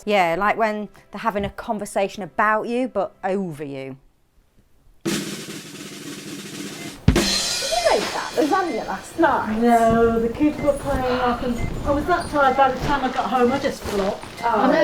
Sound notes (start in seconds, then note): 7.6 background chattering